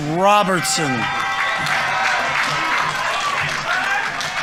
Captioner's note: audience members cheering; audience applauding